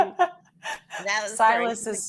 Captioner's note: all laughing